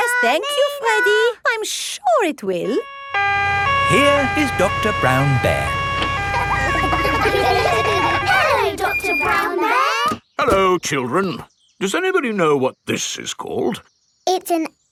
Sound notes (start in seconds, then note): 2.8 siren wailing; 6.7 kids laughing